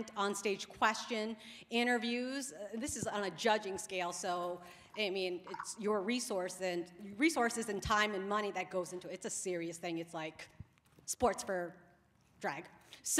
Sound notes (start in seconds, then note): none